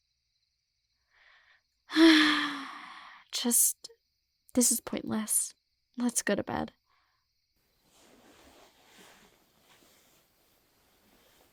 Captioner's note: sigh